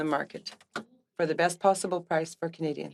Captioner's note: speaking French